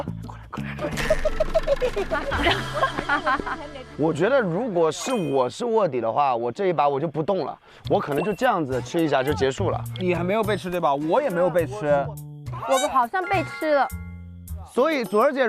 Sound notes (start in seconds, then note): 0.6 the undercover is laughing madly